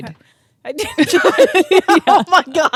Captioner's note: both laughing